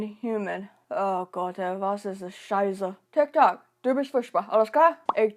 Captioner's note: speaks german